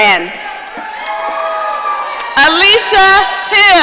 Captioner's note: audience cheering